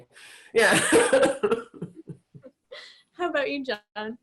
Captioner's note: laughs